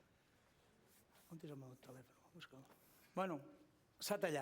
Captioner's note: non-english speech